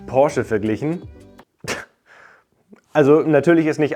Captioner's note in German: Lacht